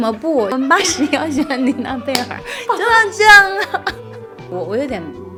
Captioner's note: laughing